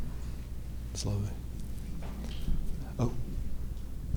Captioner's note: speaking faintly